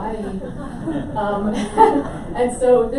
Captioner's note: audience laughs